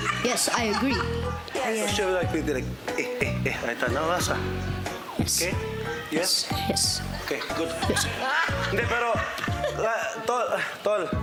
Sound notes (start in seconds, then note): 0.0 cackling; 2.3 speaking gibberish